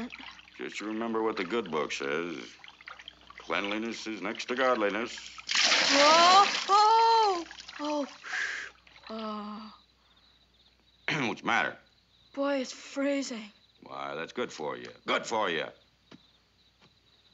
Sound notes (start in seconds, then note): 7.8 sighs